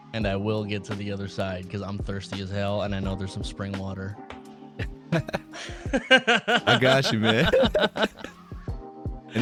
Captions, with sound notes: and I will get to the other side because I'm thirsty as hell and I know there's some spring water. (laughing) - I got you, man.